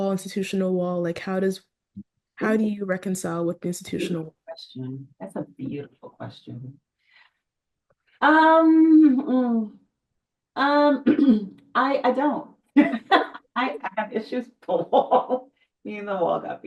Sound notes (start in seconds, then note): 9.9 laughs